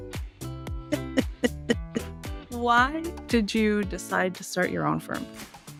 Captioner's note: laughs